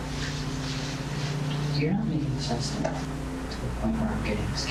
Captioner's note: whispering